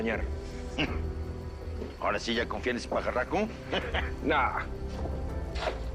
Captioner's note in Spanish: Risas